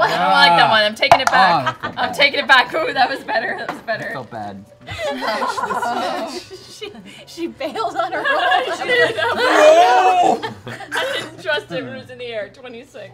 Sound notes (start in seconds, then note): 4.9 laughing; 10.9 laughing